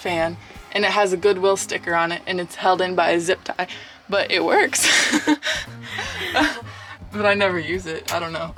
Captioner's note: laughs